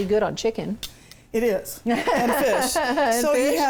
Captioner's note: laughs